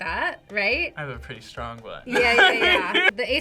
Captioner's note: laughs